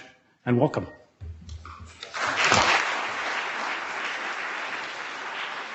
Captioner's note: audience clapping